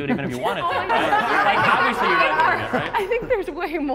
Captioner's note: participants laughing